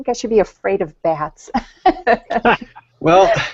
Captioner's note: laughing